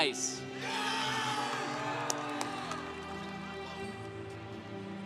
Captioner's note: congregation applauding